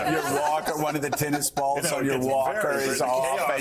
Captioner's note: laughter